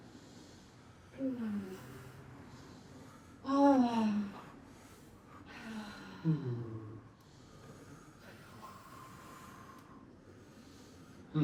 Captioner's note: sighing; humming